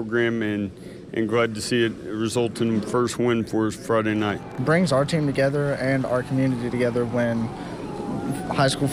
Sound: chanting

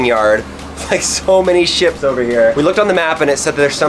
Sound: laughs

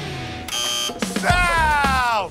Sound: buzzer

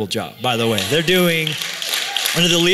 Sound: applause

